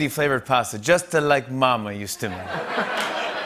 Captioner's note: Italian accent; laughter and applause